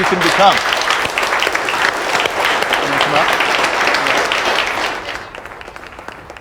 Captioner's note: applauding